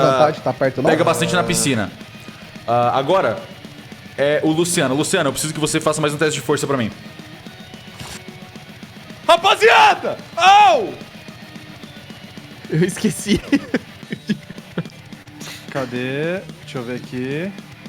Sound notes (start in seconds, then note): 12.7 laughter